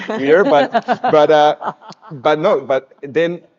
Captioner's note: speakers laughing